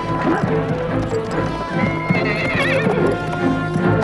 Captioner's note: horses neighing